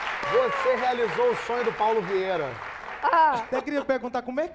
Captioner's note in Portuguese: aplausos